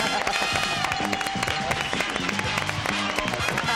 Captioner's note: laughing